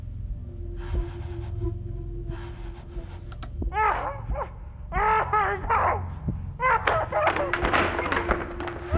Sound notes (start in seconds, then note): 4.9 man screaming